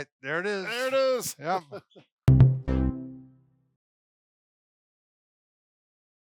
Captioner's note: chuckles